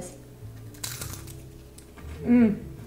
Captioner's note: dosa crunching